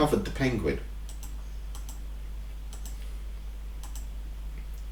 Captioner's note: clicking on screen